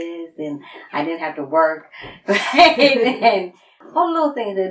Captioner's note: laughs